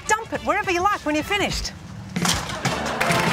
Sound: bike thuds; audience claps

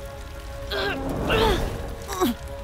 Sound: grunting

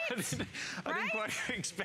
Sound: laughter

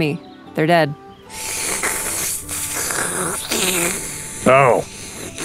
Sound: Frieren slurping

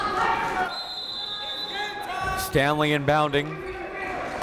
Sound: whistle blows

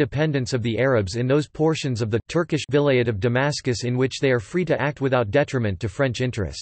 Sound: Turkish

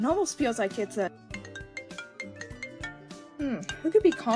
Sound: phone ringing

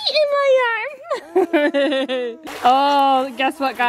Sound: laughs

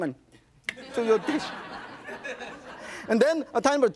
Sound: audience laughs

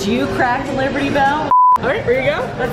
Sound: beep

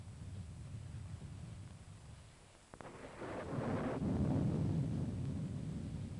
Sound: rain pattering; thunder rumbling

